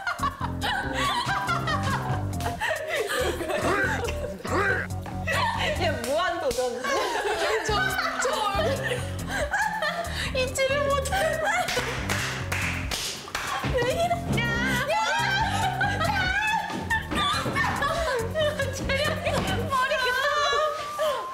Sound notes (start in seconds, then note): 0.0 laughter; 9.7 dizzy from laughing; 17.1 laughter